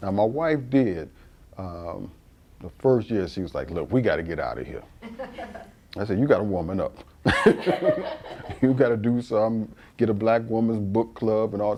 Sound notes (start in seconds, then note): 7.3 laughs